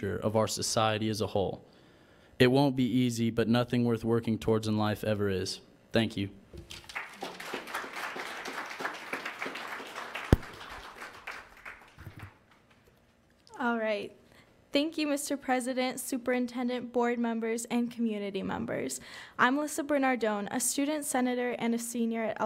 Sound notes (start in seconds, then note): 6.6 applause